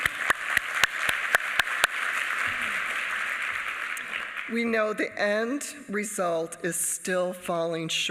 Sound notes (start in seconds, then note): 1.5 applause